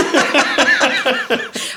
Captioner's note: all laughing